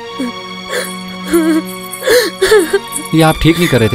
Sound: crying

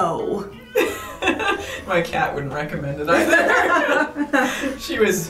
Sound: laugh

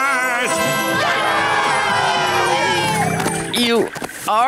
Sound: cheering

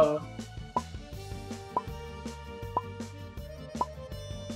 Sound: timer count down

